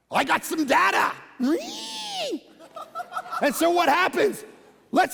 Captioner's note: congregation laughing